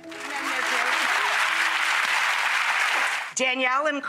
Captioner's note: audience applause